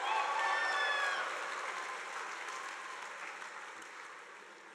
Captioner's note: crowd cheering